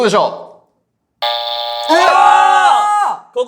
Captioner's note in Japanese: 不正解音